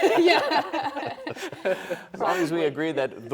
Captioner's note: laughs